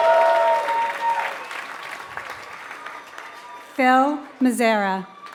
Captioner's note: applause